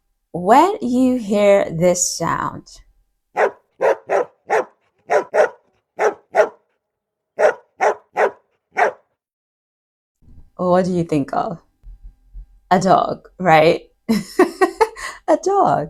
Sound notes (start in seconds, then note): 3.3 sound of dog barking